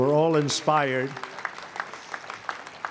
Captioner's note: applause